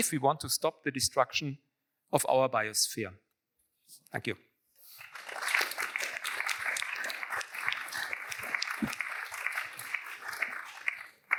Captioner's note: applause